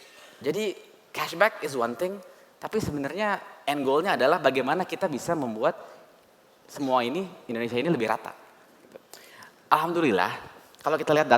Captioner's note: non-english speech